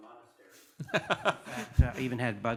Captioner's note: laughing